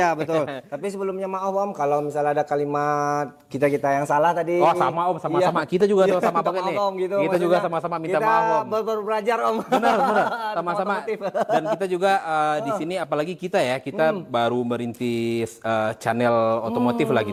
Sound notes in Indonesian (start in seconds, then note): 9.5 tertawa